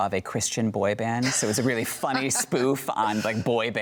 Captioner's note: laughs